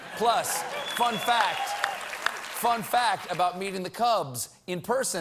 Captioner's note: applause